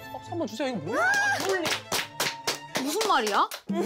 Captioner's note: applause for contribution